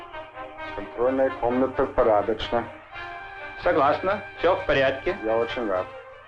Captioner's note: birds chirping; military leaders speaking in Russian